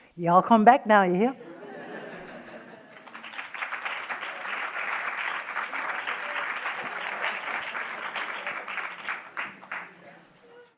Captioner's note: applause